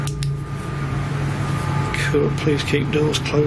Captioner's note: torch clicking